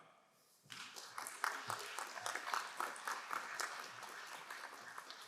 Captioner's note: crowd applauding